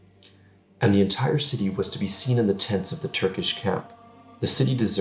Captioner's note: Turkish